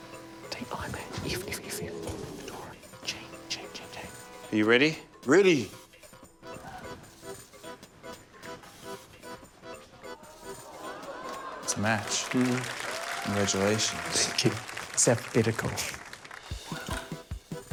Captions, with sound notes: - Are you ready? - Ready. (AUDIENCE EXCLAIMS) - It's a match. - Mm. - Congratulations. - Thank you. It's alphabetical.